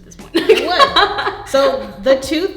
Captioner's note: laughing